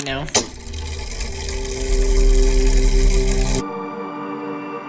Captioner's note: mechanism whirring; ethereal music